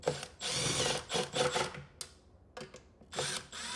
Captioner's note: tool whirring